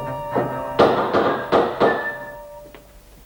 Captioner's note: vigorous rapping